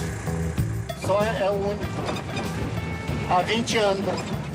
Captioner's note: Portuguese spoken audio